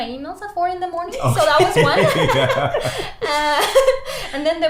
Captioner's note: everyone laughs